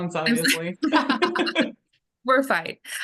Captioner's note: laugh